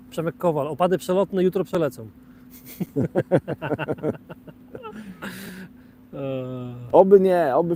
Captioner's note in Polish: śmiech